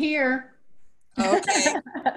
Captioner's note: laughter